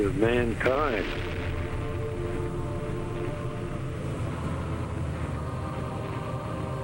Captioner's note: dramatic spirited music; explosion booming